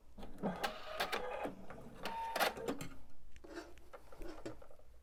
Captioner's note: sewing machine whirring